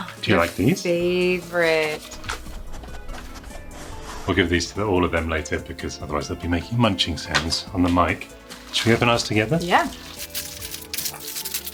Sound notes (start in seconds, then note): 2.5 dogs sniffing